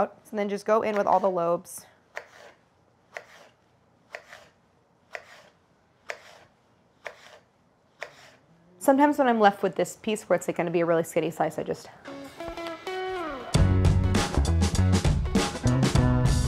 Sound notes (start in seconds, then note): 2.7 apples slicing; 12.0 upbeat instrumental music